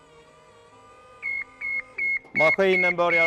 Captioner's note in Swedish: beep-ljud